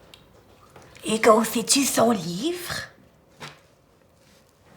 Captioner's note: Émeraude, whispering